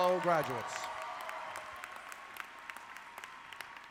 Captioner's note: audience clapping